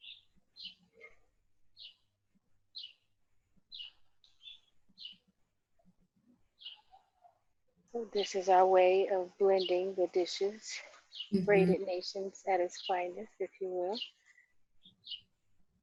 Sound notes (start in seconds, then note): 3.0 birds chirping